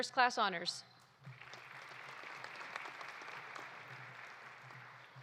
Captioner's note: audience applauding